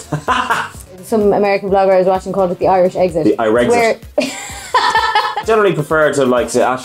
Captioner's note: laughs; laughs